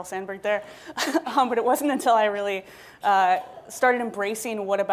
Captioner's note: laughing